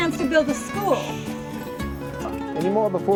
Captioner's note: nearby Shushing